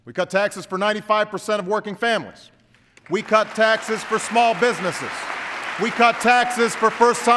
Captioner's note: applause